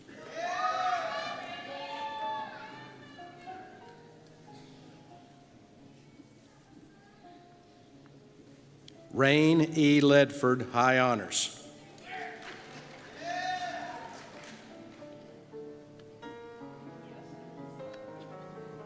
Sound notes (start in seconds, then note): 0.1 cheers; 12.0 cheers